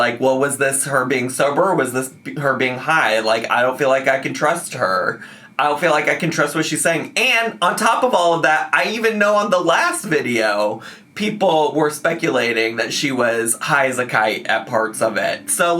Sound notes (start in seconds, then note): none